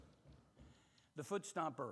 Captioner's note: heavy foot stomp thudding